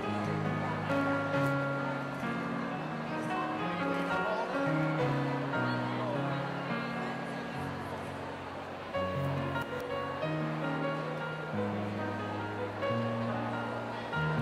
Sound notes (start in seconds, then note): none